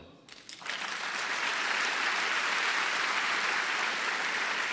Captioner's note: audience applause